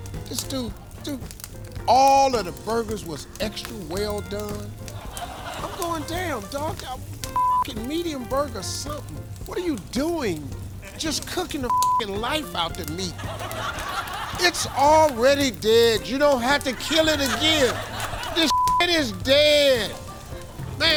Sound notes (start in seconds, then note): 13.2 audience laughing